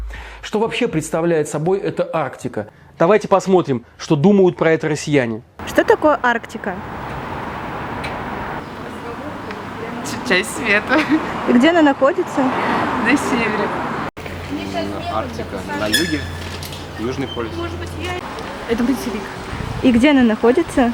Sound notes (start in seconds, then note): 9.7 laughs